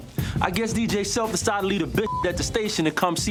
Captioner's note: beep